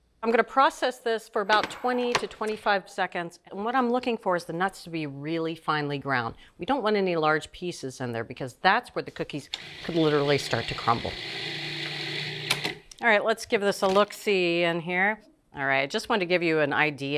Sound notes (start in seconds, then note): 11.3 processor whirring